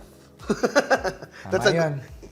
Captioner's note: laughs